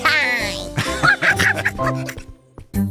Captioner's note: laughs